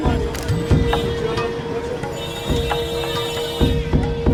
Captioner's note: horns honking